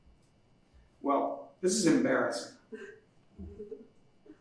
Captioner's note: Marley laughs